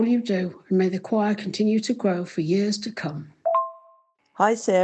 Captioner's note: voice message notification